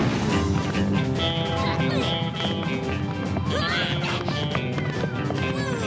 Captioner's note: western music; Captain Flamingo grunts